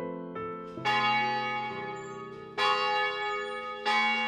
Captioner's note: church bell tolls